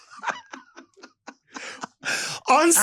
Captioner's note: Lady Bunny laughs